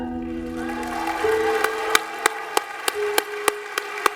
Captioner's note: cheering and applause